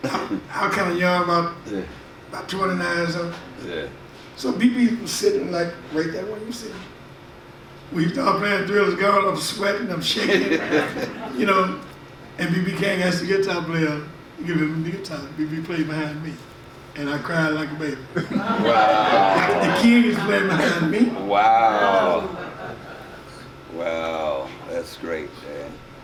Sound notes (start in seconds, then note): 10.1 audience laughs; 18.2 audience murmurs and laughs